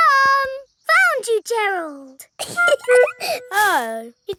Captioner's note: giggling